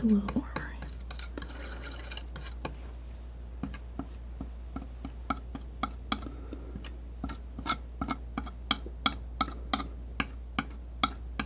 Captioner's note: tapping